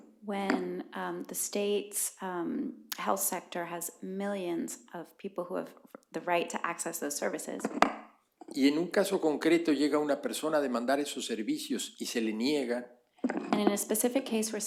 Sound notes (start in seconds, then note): 0.0 speaking spanish; 10.8 speaking spanish